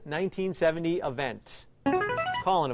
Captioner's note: chiming